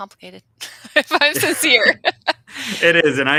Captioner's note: laughing